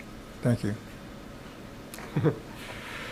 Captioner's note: chuckles